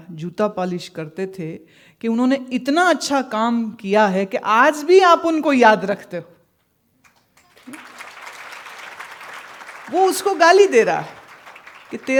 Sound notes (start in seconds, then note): 7.1 audience applauds